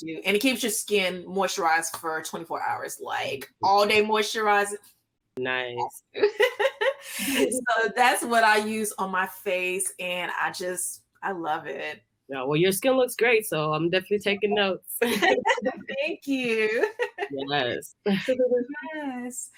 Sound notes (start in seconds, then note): 6.1 laughs